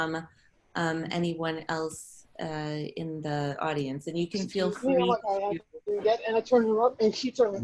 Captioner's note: audio interference